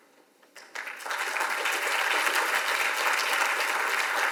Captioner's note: audience applauds